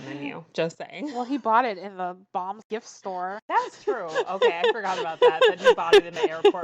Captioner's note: laughs